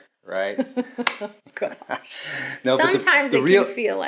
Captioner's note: both laugh